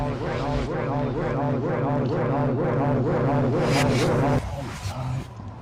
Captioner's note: disorienting music; Dave's voice echoing